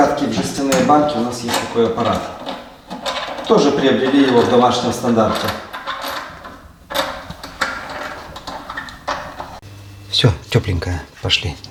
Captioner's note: laugh